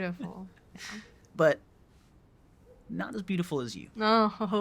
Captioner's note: laughs